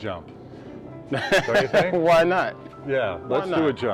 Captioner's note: laughs